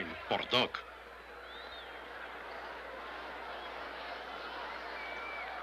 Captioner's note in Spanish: bullicio del público